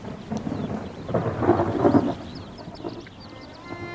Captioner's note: thunder rumbling